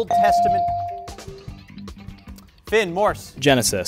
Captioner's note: bell rings